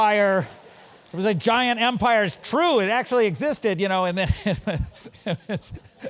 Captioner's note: laugh